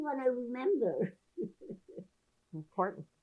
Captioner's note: laughing